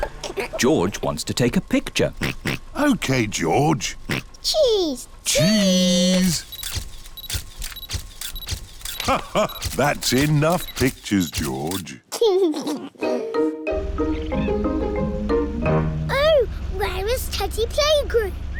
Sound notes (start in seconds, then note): 2.1 oinks; 8.8 laughs; 12.1 giggles